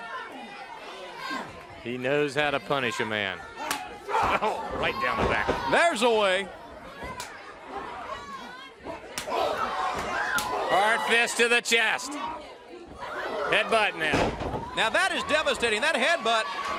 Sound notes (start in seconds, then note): 5.9 crowd cheering